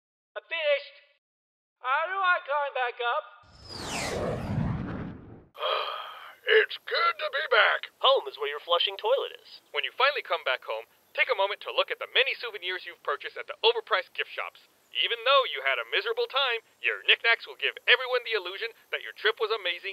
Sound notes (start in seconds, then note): 3.6 ship taking off